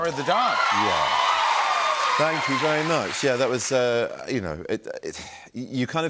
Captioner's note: cheers and applause